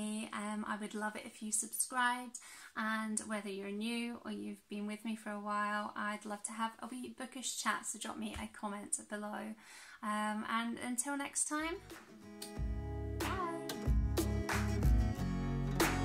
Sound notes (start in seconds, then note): 12.3 kiss